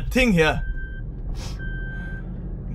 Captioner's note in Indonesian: Suara mobil